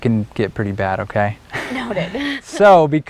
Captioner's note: laughing